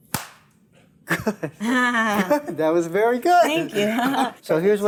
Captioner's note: slapping sound